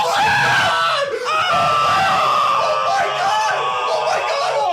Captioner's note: screams